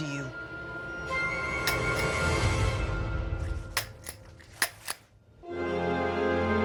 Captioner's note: dramatic music continues; gun clicking; dramatic music